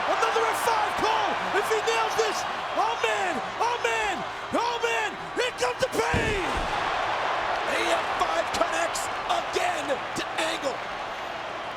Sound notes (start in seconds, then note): 7.0 audience cheering